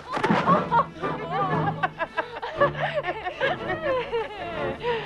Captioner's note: both laughing